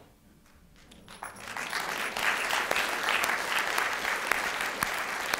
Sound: applause

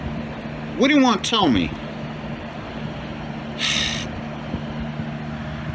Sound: sighs

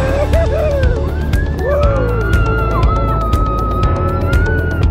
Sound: passengers shouting

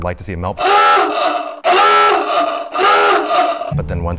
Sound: alarm blaring

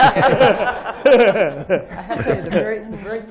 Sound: laughter

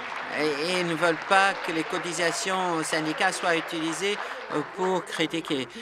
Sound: applause

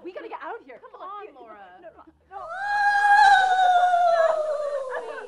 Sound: moan sounding like 'Maddy'

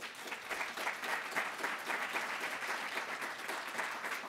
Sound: applause

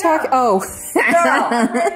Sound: laughs

